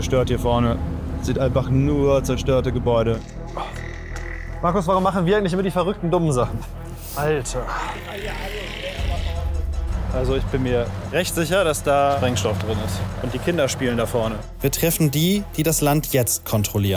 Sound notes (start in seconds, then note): 8.5 dark sounds